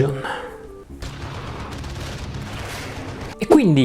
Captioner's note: sounds of deadly memories in Undermountain